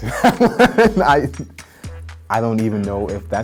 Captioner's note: laughing